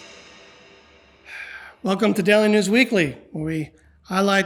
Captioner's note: sighs